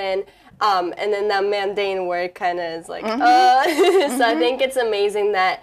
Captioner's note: laughing